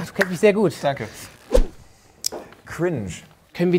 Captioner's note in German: Sausendes Geräusch